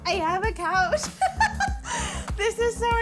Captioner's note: laughing